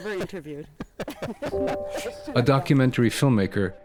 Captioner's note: laughter